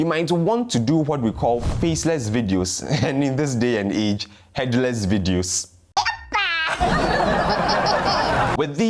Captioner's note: headless laughing